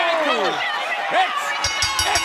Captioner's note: bell ringing